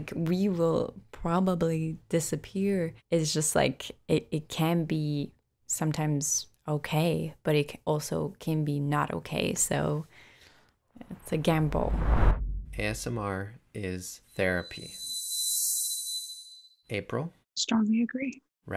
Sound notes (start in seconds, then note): 11.0 frame whooshing; 14.9 slow music